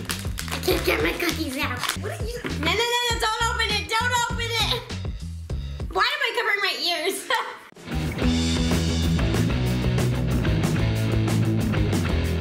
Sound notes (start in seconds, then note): 7.0 laughs; 7.7 rock music